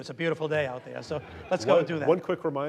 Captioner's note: audience laughing